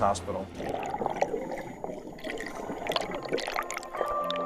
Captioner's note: water swooshing